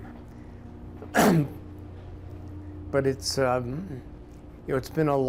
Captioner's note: clears throat